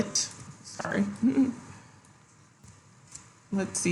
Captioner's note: giggles